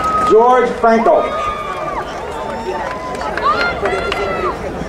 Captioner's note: crowd cheering